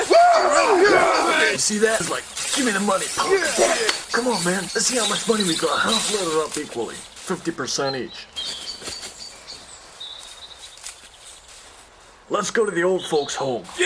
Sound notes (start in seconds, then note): 8.5 birds chirping